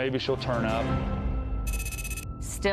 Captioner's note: tense music; text clicking